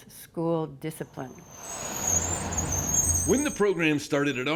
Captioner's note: brakes squeaking